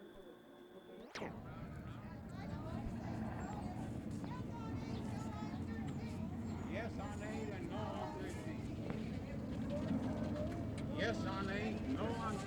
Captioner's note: protesters chanting